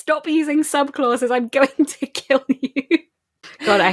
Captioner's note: laughing; laughs